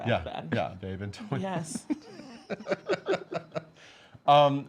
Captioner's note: laughs